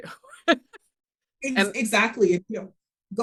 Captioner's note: laughing